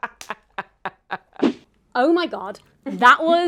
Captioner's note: laughs; video whooshing